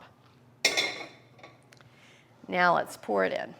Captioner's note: metal clanging